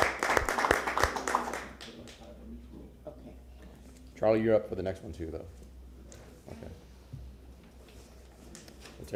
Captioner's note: applause